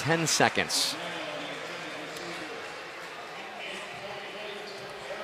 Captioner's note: pa announcement